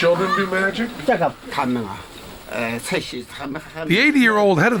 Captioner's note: non-english speech